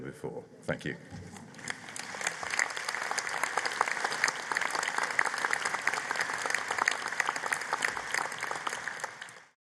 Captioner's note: applause